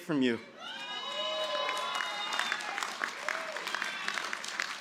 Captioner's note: cheers and applause